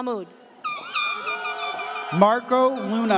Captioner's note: air horn blares